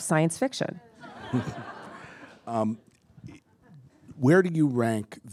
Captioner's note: attendees laughing